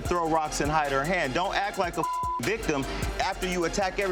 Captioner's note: beep